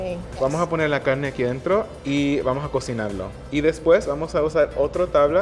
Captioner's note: speaking Spanish